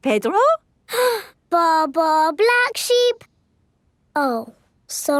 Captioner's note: inhales